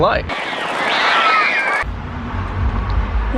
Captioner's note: screaming